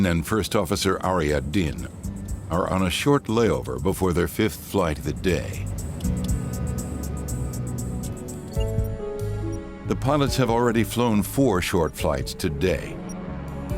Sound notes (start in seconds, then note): 6.2 airplane engine roaring; 8.9 gentle music; 13.5 gentle music